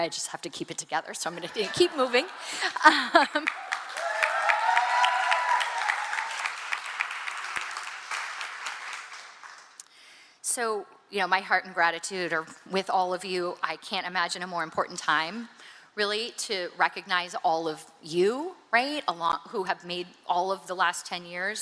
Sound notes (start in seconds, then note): 8.0 cheering and applause